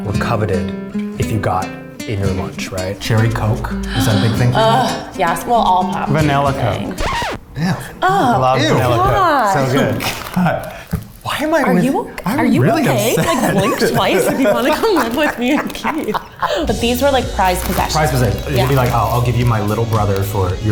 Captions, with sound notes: that were coveted if you got in your lunch, right? Cherry Coke, was that a big thing for you? - Ugh, yes, well all pop. - Vanilla Coke. (record scratch) - Ew! - Ugh! - I love Vanilla Coke, it's so good. - Why am I with him? - Are you okay? - I'm really upset! - Like, blink twice if you wanna come live with me and Keith. (all laughing) But these were like prized possessions - It would be like, "I'll give you my little brother